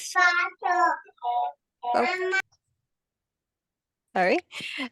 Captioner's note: child chattering indistinctly